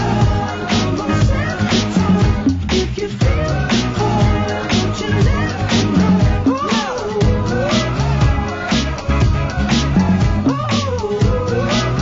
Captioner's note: audience applause